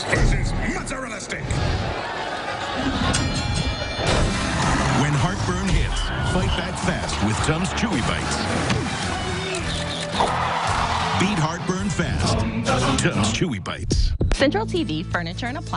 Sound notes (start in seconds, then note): 1.5 crowd noise; 3.3 bell rings